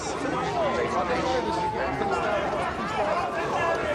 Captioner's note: distant siren wailing